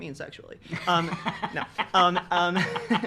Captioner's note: laughing